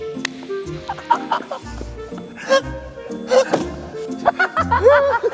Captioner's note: laughing